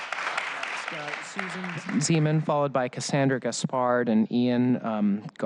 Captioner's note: applause